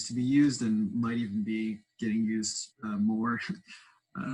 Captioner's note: laughs